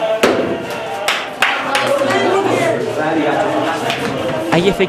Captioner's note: applause